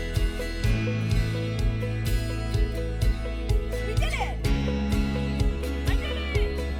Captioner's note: children laughing